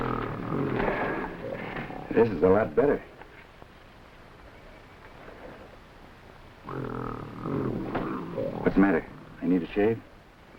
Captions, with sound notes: This is a lot better. (gorilla grunting) What's the matter? I need to shave?